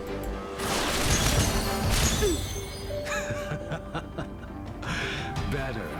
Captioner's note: laughter